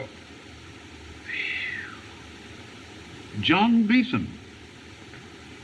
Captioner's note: sighs